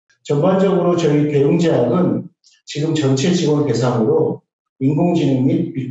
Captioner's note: speaking in foreign language